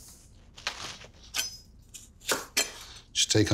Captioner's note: knife chopping